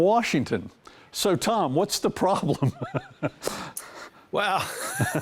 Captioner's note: laughing